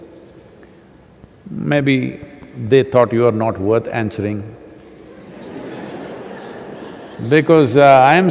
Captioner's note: laughter